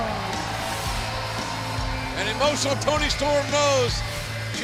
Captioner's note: cheers and applause